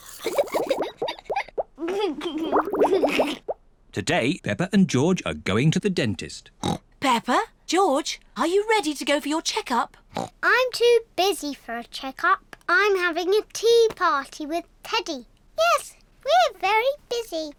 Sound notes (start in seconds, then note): 0.2 giggles; 6.6 oinks; 10.1 oinks